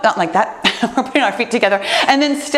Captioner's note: laughs